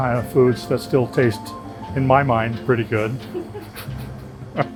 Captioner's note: laughs